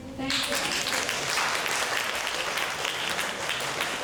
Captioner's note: applause